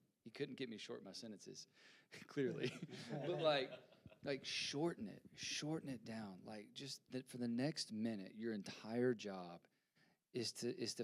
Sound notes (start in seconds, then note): 2.4 panelists laughing